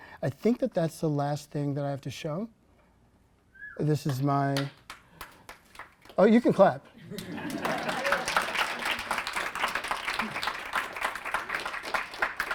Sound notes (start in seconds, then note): 7.0 applause